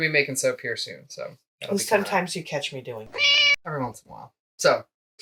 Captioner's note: meow